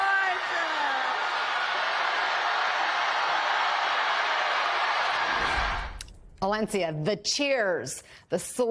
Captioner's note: cheers and applause